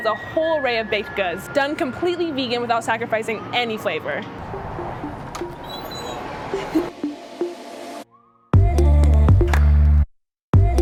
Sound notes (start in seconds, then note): 4.4 door squeaks; 6.5 cheerful music